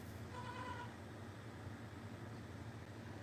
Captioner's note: goat bleats